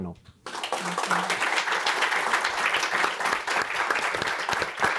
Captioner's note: audience applauding